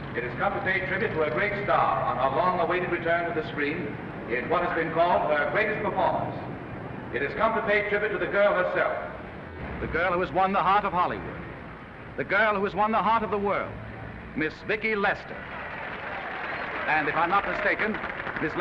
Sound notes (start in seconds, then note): 15.3 audience applauding